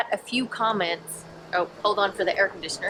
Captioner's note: air conditioner buzzing